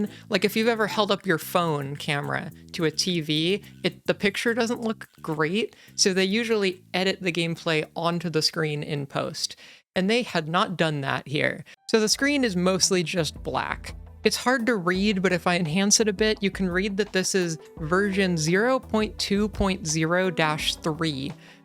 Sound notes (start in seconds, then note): none